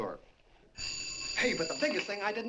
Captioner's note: telephone rings